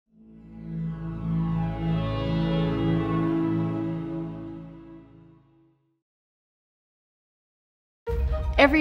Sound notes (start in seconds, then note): 0.1 synth drone sound effect; 8.1 bright music